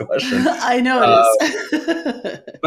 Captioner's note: laughing